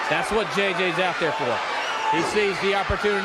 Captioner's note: crowd cheering